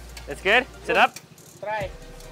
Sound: speaking in foreign language

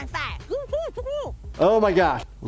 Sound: stifled murmurs

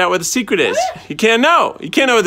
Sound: laughs

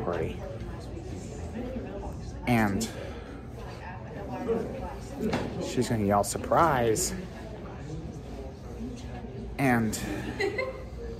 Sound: Studentys chattering at Purdue Fort Wayne

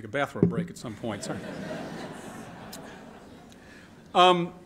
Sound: laughter

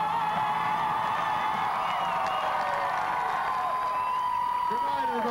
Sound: clapping and cheering

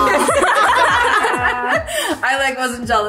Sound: girls laugh

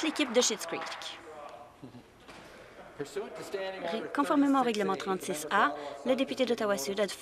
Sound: some Applause

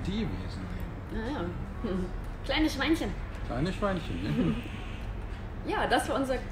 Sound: laugh

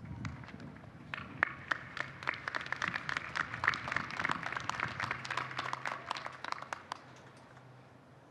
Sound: applause

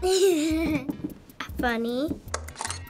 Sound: laughing

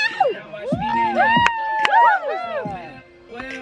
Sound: audience cheers

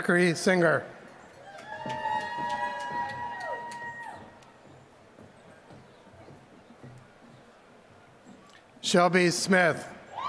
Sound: applause

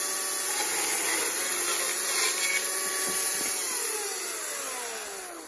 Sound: electric chainsaw sound

